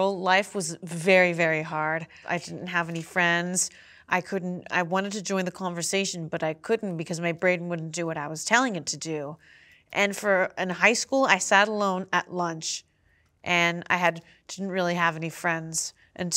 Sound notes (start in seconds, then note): none